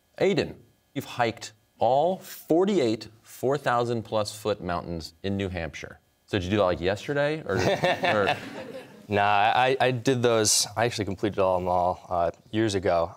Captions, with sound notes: Aidan, you've hiked all 48 4,000-plus-foot mountains in New Hampshire. So did you do that, like, yesterday or, or... (laughter) >> Nah, I did those, I actually completed all, them all years ago.